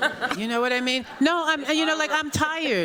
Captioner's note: laughter